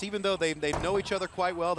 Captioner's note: crowd chatter